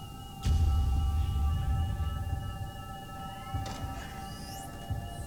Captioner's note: device beeping